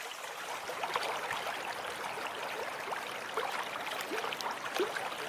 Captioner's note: running water